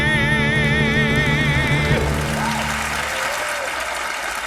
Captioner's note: audience applauding